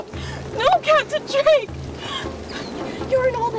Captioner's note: sobbing